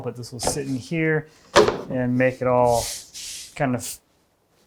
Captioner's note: none